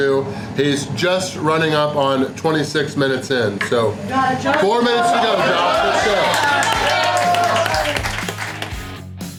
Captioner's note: crowd cheering